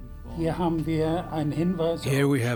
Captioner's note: speaking German